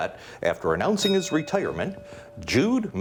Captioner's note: bell dings